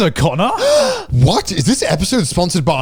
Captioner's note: gasping